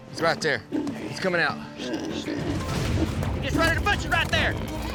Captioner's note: hog snorting